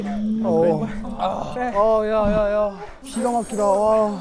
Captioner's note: thud